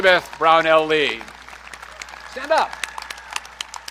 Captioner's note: audience clapping